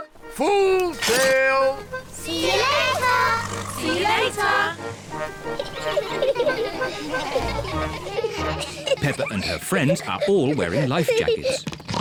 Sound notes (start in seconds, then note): 5.2 all giggling; 11.8 oinks